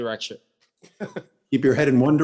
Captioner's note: laughs